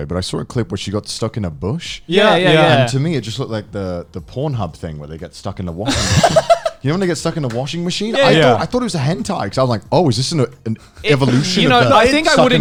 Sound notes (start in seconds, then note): 5.8 laughs